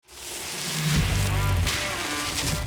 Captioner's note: bike splashing through water